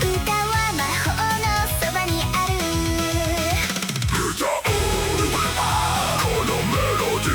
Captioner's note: death growl